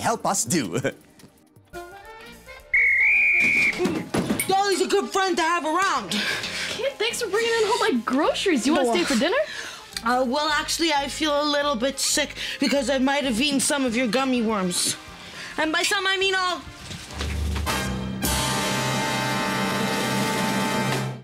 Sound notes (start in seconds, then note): 0.7 chuckles; 2.6 whistle blowing